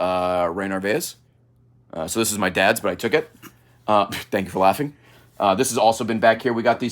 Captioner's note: giggles